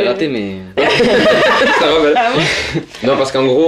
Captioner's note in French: ils rient